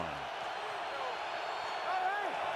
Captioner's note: cheering